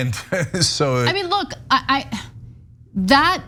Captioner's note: laugh